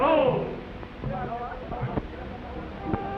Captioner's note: people chatter